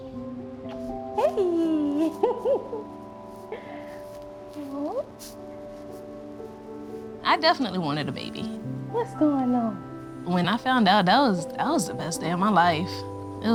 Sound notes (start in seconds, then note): 1.2 laughing